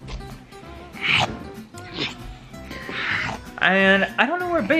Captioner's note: growling